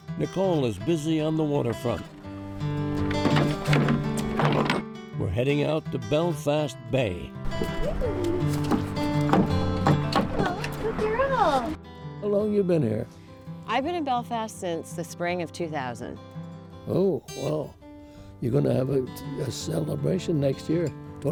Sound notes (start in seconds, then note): 3.1 orrs thud; 7.4 paws thud